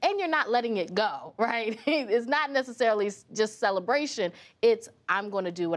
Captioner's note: laughs